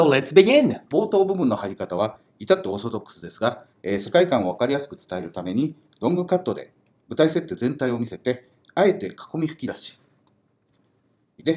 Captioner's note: speaking Japanese